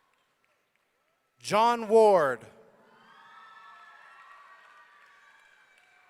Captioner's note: audience cheering